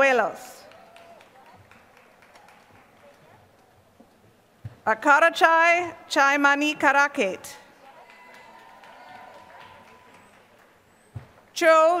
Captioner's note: applause